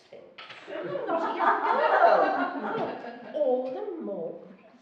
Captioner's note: laughing